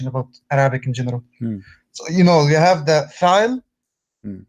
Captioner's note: arabic words